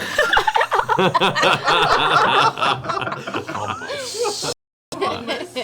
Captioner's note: all laugh